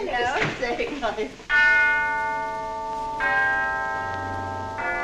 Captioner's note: clock chiming